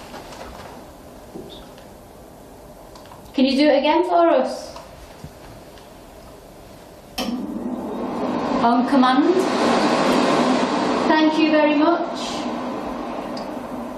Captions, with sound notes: - Can you do it again for us? (hand dryer roaring) Oh, come on. Thank you very much.